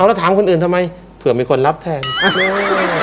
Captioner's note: laughing